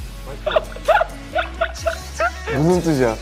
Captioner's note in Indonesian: Cracking up